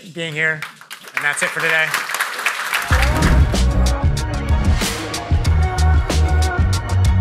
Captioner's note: audience applauding